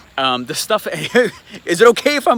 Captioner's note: laughs